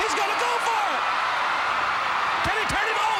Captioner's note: crowd cheering